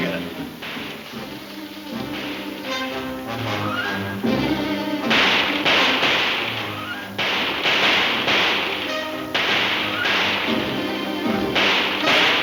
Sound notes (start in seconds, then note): 0.2 dramatic music; 4.2 guns firing